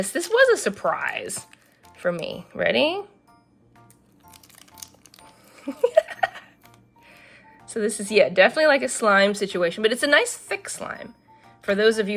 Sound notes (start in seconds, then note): 5.6 laughs